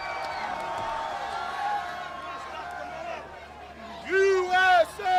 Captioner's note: crowd cheering; crowd chatter